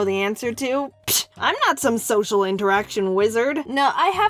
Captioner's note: pshh